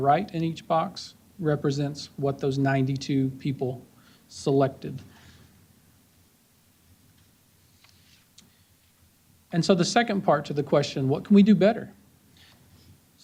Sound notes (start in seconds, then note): none